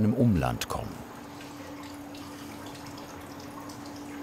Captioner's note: splashing, humming